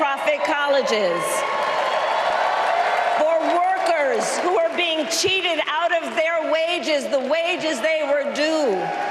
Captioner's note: applause